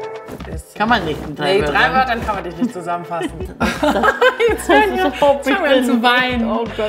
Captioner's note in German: lacht